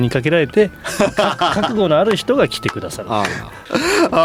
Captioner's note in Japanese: 笑い